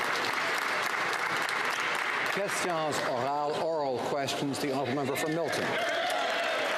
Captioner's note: some Applause